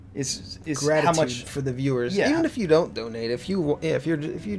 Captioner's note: none